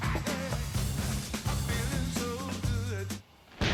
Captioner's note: thunder rumble